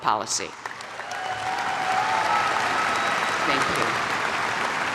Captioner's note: audience applaud